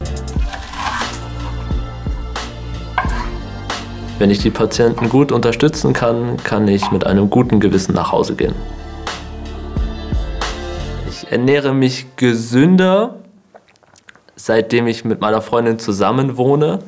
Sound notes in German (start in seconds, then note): 0.2 Beschwingte Musik; 13.5 Er schluckt